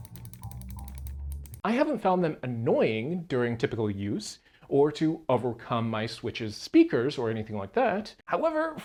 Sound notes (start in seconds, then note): 1.6 clicky button sounds